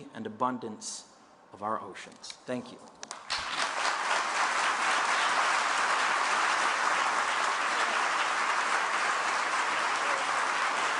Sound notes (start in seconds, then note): 3.6 applause